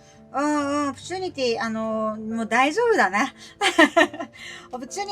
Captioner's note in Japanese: 笑い